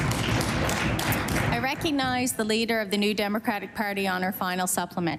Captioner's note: applause